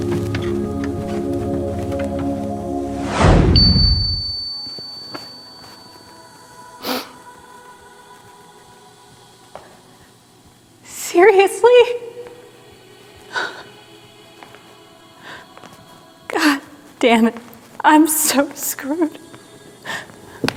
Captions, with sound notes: (gentle music) (beep) - Seriously? God dammit, I'm so screwed.